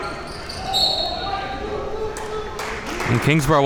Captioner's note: whistle blowing